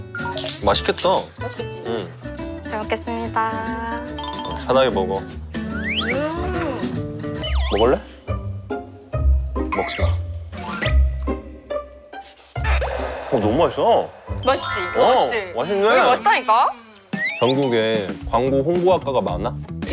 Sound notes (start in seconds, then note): 4.2 familiar munching; 10.5 loudly munching